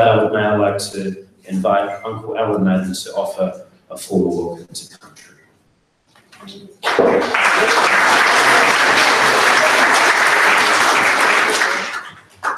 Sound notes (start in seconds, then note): 6.8 audience applauds